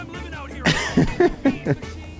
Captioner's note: laughs